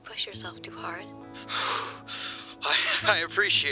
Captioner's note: panting